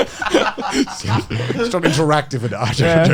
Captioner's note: all laughing